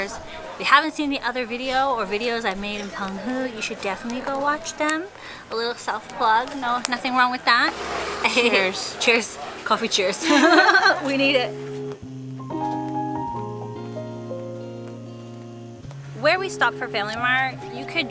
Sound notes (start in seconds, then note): 7.2 cheers